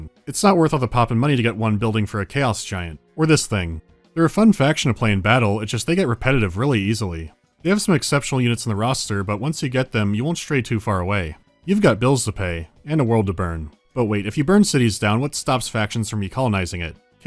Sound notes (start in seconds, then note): none